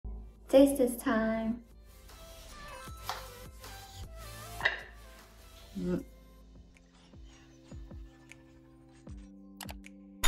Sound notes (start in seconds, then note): 4.6 plate thud